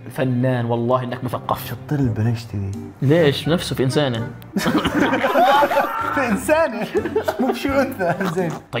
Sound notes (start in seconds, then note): 4.5 laughter